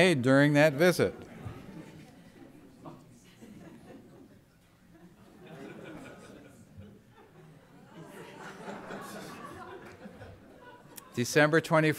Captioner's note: laughter